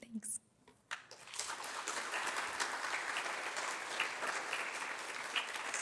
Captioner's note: applause